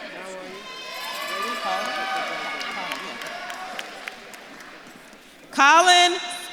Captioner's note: audience claps and cheers